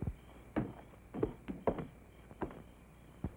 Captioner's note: footsteps up steps